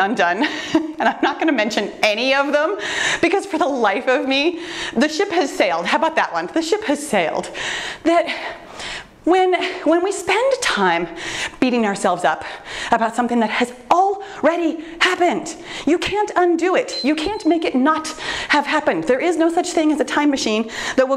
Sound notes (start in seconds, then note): 16.8 timer beeps